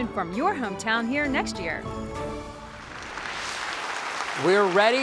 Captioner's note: applause